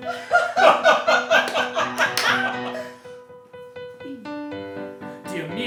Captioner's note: laughter